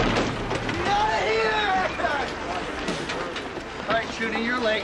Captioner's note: yelling